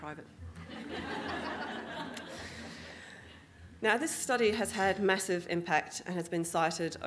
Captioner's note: audience Laughing